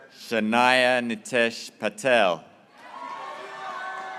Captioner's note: graduates cheering